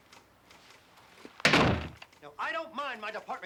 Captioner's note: slams door